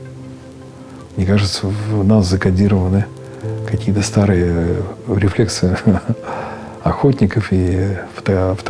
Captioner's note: ha-ha